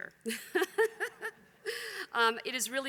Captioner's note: laughter